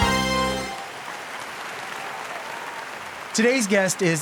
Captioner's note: audience applauding